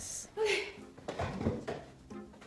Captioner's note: sigh